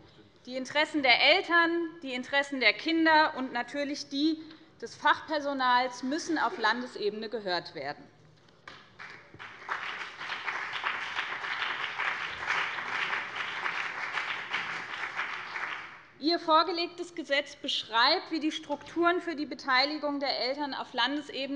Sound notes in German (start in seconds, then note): 8.7 Beifall BÜNDNIS 90/DIE GRÜNEN